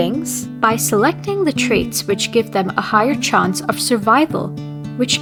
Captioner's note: none